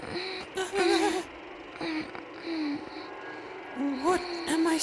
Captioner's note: Narue continues moaning; moaning